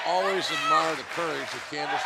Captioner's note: fans chanting